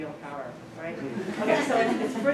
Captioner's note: laughter